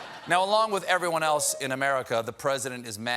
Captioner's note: laughter